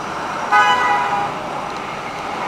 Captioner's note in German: Vorbeifahrendes Auto hupt